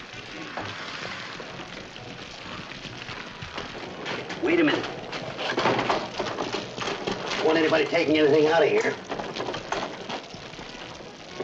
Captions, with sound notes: [ FIRE CRACKLING ] Wait a minute. [ LOCK RATTLING ] Don't want anybody taking anything out of here.